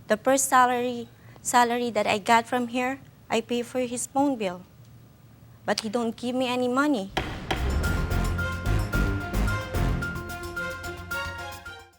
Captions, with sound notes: The first salary that I got from here, I pay for his phone bill, but he don't give me any money. (gavel thudding) (suspenseful music)